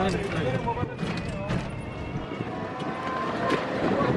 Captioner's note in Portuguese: sons da rua e conversas